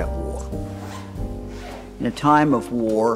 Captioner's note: unzipping